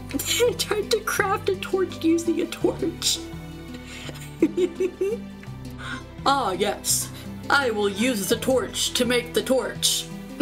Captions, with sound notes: -tried to craft a torch using a torch! [quiet giggling] "Ah, yes. I will use the torch to make the torch."